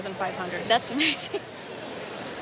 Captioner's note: laughing